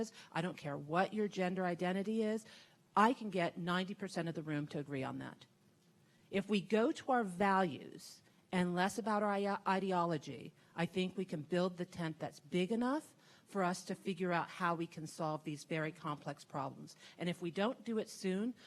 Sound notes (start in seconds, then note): none